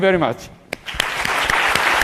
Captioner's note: applause